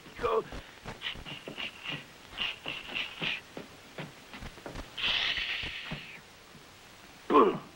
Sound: train sounds

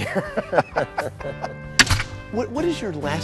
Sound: both laugh

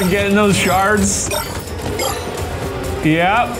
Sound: shards bleeping

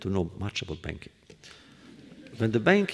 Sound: laughter

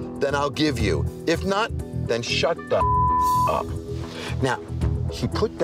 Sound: beep

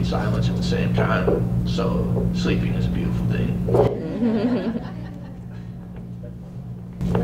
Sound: laughter

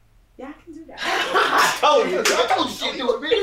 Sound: laughing

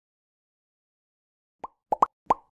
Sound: popping Sound

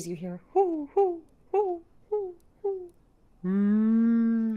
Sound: Deborah cooing

